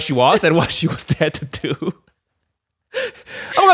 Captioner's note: laughs